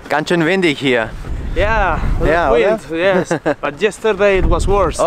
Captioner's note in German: auf Englisch